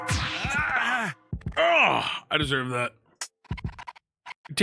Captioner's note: Darrel yells